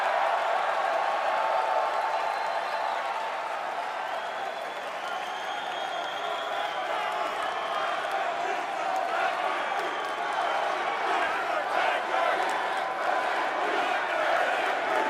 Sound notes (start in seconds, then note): 3.2 cheers and applause